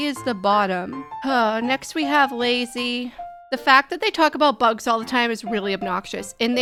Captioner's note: sighing